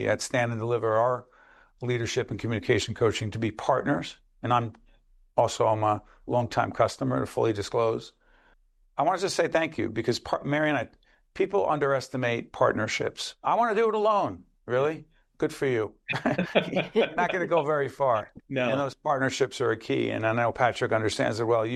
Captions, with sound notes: at Stand and Deliver our leadership and communication coaching to be partners. And I'm also I'm a longtime customer to fully disclose. I want to just say thank you because Mary and I, people underestimate partnerships. I want to do it alone. Really? Good for you. [laughter] You're not going to go very far. >> No. >> And those partnerships are key. And I know Patrick understands it well.